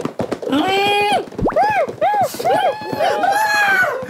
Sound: dead citizens cry

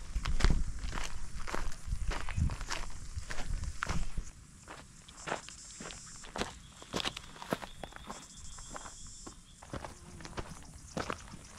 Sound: gravel crunching

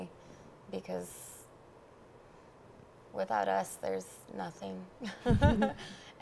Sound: chuckles

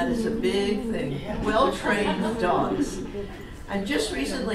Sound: audience makes sounds of agreement

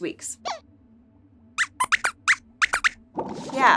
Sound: squeaks squeaks

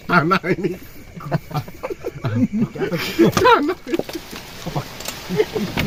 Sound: laughs

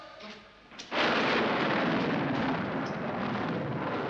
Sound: thunder

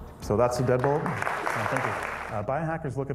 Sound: audience applauding

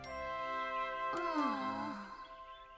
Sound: both groan sadly

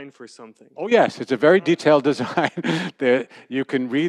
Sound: laughter

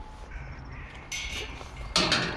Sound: gate shuts

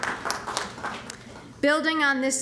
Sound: applause

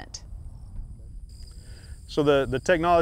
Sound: crickets chirping

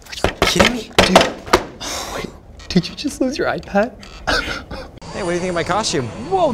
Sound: laughs

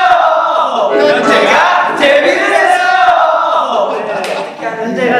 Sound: all the members shout in unison

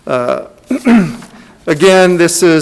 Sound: clears throat

